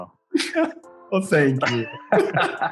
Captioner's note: all laughing; laughing